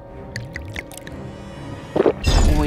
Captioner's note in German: Gluckern